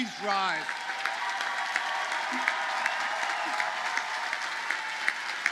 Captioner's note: audience cheers and applauds